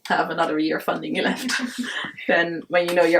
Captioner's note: chuckles